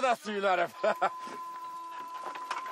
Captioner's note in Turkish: Gülme sesi